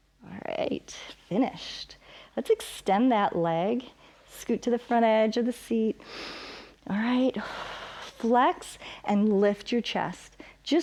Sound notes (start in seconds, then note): 6.0 inhales; 6.0 exhales